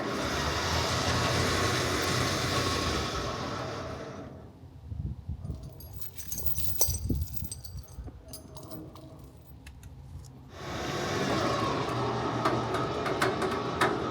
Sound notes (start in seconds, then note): 5.5 chain clanking; 11.1 machine whirring